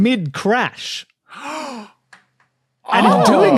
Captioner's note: gasps